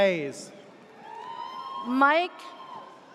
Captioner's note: audience cheers